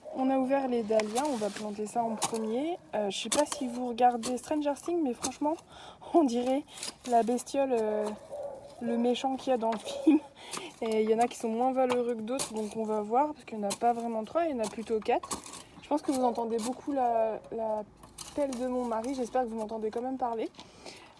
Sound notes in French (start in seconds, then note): 9.8 rire